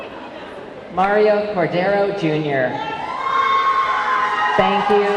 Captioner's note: audience clamoring